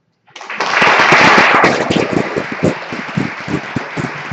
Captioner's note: applause